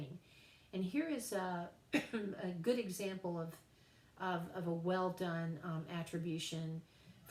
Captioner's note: cough